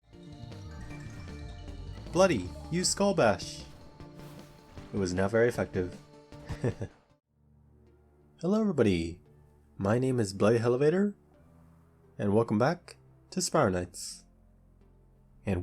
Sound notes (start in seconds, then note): 6.5 laugh